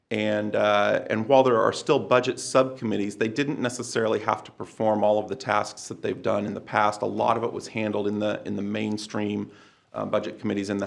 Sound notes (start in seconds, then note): none